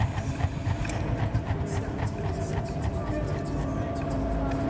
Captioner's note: voices echoing; suspenseful music